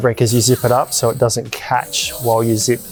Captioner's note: zip rasping